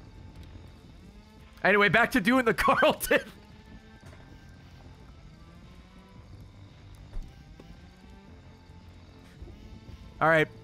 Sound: laughs

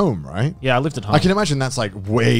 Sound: all laugh

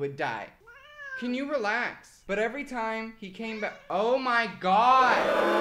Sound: meows; meows aggresively; audience booing

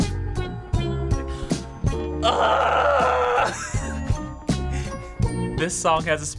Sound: chuckles

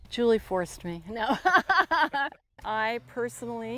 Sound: laughing

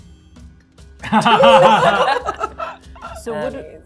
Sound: gamers laughing

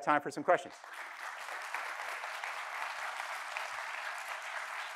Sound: audience clapping

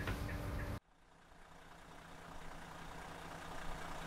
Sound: engine idling

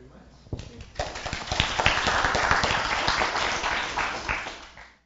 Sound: applause

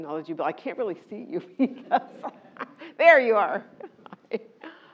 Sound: laugh

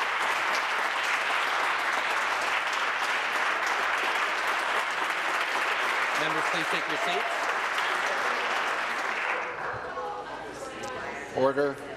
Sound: some Applause

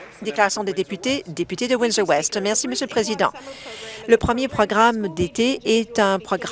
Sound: applause

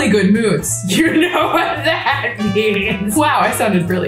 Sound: laughs

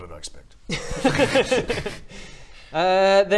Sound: laughter

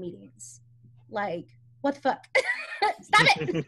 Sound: all laughing; laughs

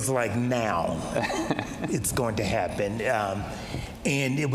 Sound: laughs

